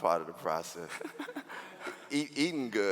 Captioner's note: laughing